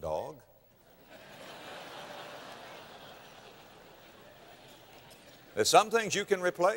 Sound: laughter

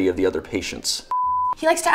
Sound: beep

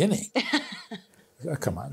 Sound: laughs

